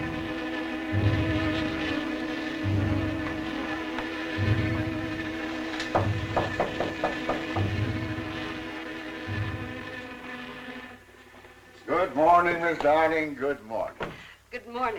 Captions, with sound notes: (knocking on door) Good morning, Miss Arning. Good morning. Good morning.